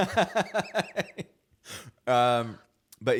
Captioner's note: laughs